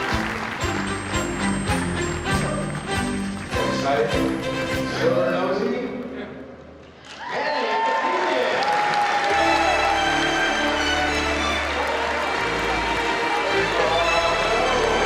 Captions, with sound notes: You excited for the Silver Nosey? Manny Avetisyan. (applause) (upbeat classical music)